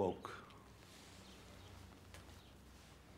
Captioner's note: birds chirping